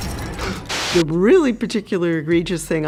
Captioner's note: glass shatters; gasps